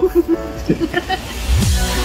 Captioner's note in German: Lachen